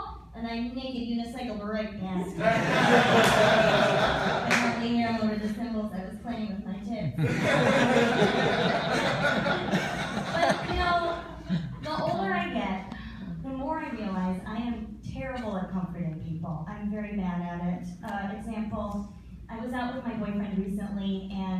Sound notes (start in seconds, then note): 2.2 laughter; 7.1 laughter